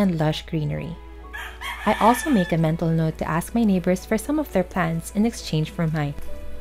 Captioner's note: rooster sounds